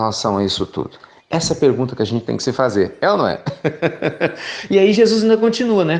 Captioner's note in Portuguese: Risos